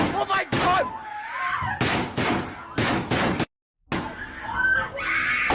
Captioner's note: students screaming